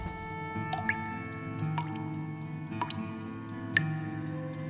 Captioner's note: water dripping; mysterious music